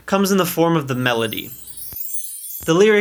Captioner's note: glittery sound